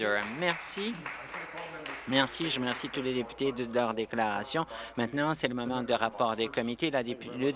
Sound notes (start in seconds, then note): 4.2 applause